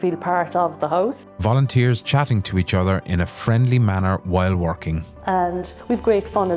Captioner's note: volunteers chatting to each other in a friendly manner while working